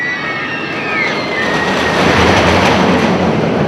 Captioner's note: screaming; roller coaster sounds